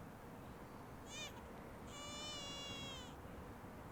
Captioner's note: baby crying